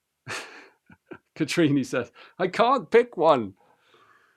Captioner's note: laughs